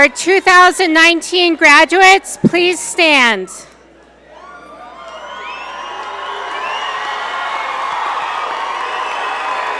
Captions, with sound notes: - Our 2019 graduates, please stand. (audience cheer and applaud)